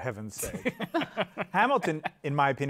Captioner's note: laughter